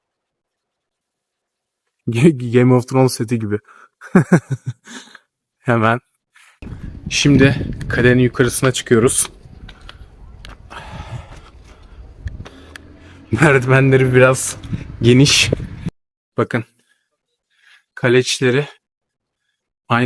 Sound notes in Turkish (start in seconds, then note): 4.0 kahkaha; 10.4 iç çeker